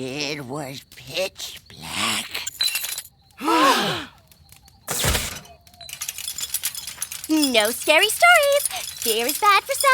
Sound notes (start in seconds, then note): 3.4 glass clinking; 4.5 all gasping